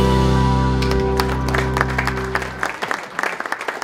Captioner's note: applause